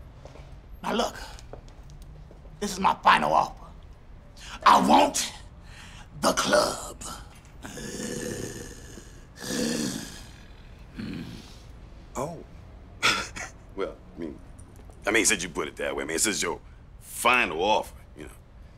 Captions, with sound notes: NOW, LOOK, THIS IS MY FINAL OFFER. I WANT THE CLUB. [GROWLS] OH. [CHUCKLES] WELL, I MEAN, SINCE YOU PUT IT THAT WAY, I MEAN, SINCE THIS IS YOUR FINAL OFFER, YOU KNOW...